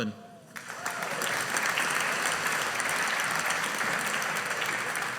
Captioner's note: audience applauding